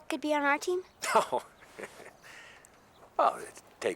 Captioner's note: laughing